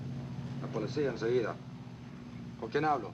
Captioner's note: speaking spanish